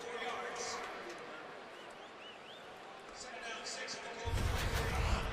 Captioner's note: pa announcement